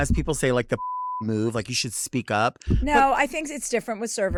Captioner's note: beep